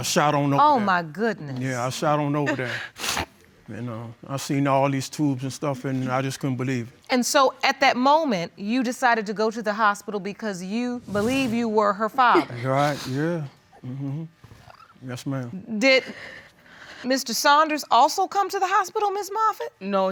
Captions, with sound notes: I shot on over there. Oh, my goodness! You know, I see all these tubes and stuff and I just couldn't believe it. And so, at that moment, you decided to go to the hospital because you believe you were her father. You're right. Yeah. Yes, ma'am. (SOBBING) Did Mr. Saunders also come to the hospital, Ms. Moffett?